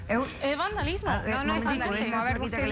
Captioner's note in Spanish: Hablan al unísono